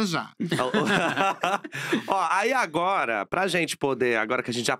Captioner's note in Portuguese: risos